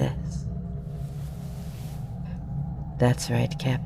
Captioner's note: rustle of fabric